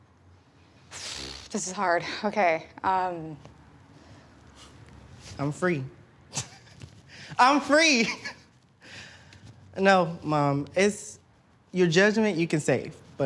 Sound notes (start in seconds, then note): 1.0 sighs